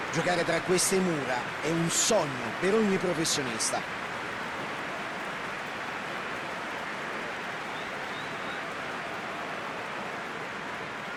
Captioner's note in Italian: Applauso